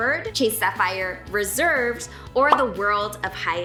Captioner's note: bubble popping